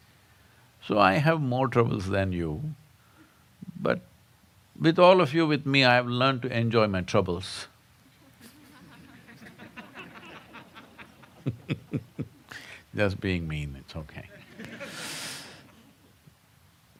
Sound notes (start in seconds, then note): 8.1 laughter